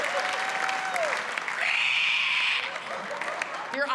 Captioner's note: screeches